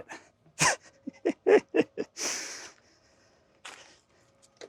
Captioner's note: laughs